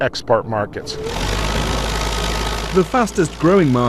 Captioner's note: tractor forklift's noise